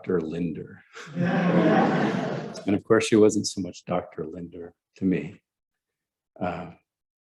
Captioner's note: laughter